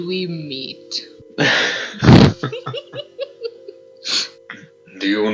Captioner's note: nervous giggity full of nostalgia